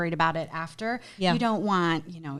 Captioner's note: none